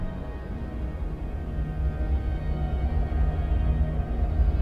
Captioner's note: wind whirling